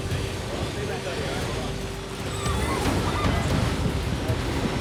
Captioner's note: murmuring